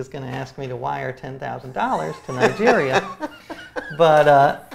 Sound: laughs

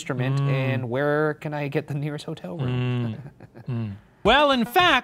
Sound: laughs

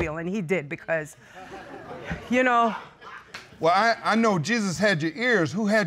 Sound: audience chuckling

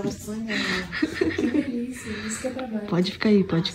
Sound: chuckles

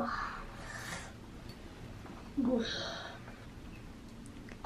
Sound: groaning

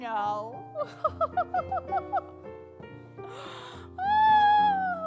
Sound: witch giggling

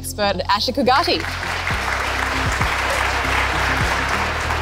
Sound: applause

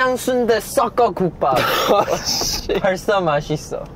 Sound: laughing

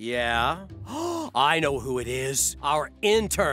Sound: gasping

